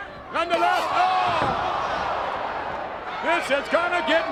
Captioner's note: blows thudding